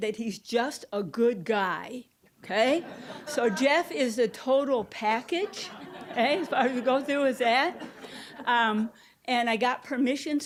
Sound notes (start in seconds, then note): 5.4 audience laughing